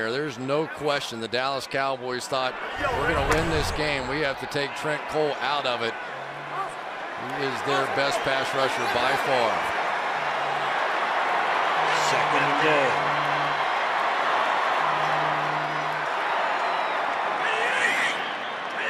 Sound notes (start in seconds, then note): 13.1 cheering